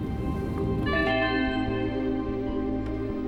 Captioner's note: computer chimes